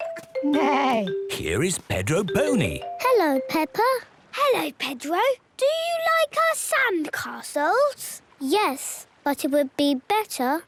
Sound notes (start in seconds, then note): none